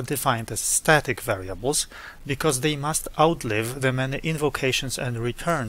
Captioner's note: static